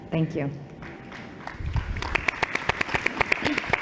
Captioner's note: applause